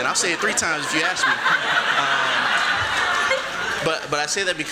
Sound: laughter

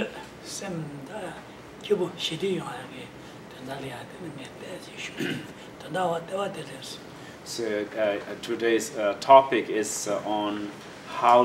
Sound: speaking in foreign language

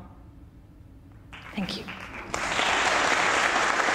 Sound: applause

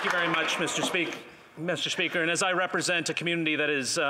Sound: applause

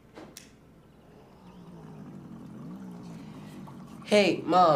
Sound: motorcycle approaching

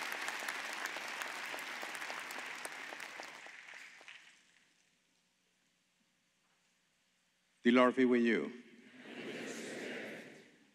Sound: cheers and applause

